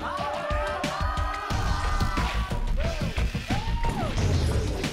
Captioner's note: crowd cheers